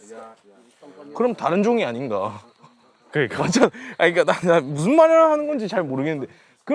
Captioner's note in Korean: 웃음